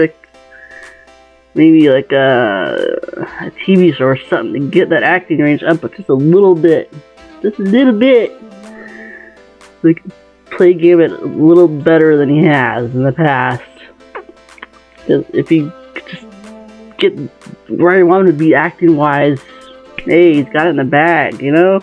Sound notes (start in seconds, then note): 13.5 smexy mouth noises